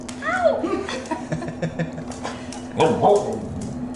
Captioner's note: laughter